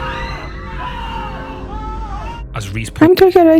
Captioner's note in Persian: صدای جیغ